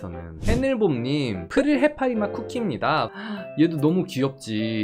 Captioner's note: voiceover